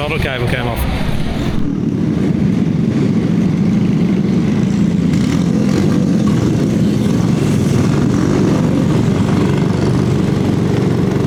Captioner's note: engine noise